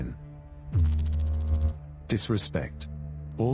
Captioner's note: electrical noise